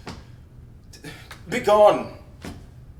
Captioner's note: sighs